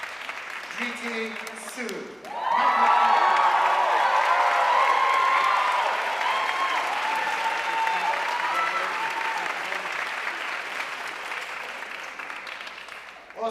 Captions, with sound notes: Dhriti Sood, magna cum laude. (audience cheering and applauding)